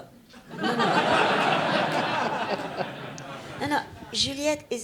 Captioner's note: audience laughs